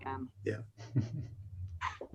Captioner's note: laughs